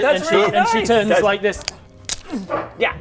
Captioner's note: crack